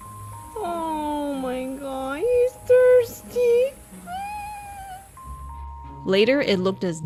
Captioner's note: squeal from cuteness